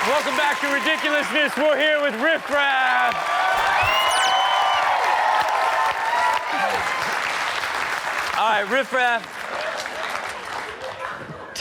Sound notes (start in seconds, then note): 3.3 audience cheering and clapping; 10.2 audience clapping